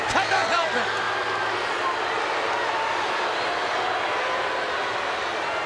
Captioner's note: audience jeers